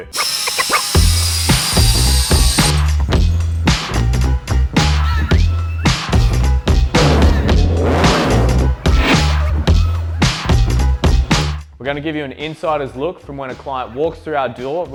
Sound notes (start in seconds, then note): 0.1 upbeat music; 7.0 engine revs